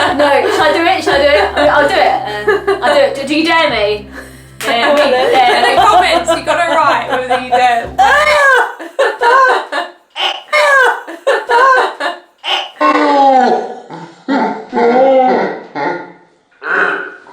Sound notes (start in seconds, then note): 4.6 laughs; 7.9 retches; 9.4 laugh; 10.5 retching & laughter repeated